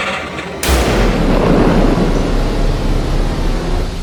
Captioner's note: gunshot, static sounds wind down